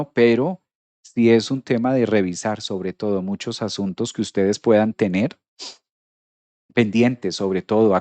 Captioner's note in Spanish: resoplido